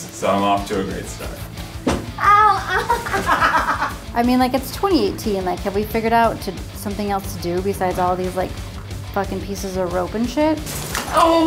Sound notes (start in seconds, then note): 2.2 laughing